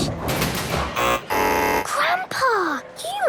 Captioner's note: buzzing